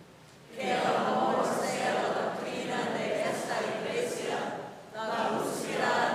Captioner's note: congregation speaking in Spanish